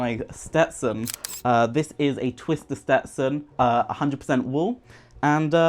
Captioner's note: camera snaps